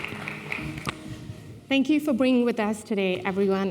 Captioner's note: applause